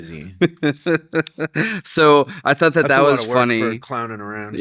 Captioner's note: laughs